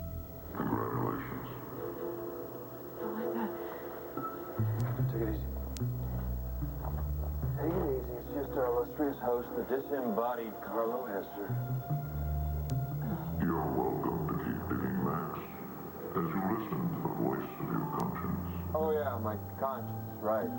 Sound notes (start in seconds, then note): 1.2 distorted voice